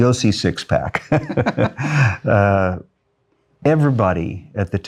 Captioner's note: both laughing